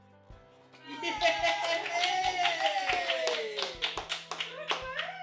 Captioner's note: cheering